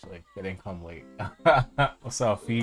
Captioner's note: laughs